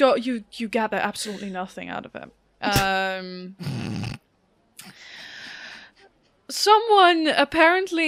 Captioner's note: snorts